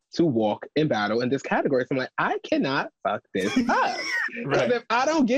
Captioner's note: laughs